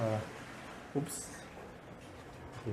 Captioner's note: cleaner cleaning the toilet